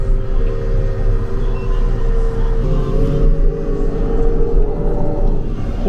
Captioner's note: engine roaring